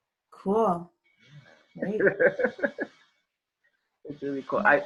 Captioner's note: laughs